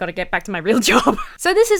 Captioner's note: laughs